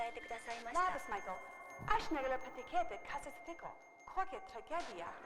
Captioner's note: speaking lithuanian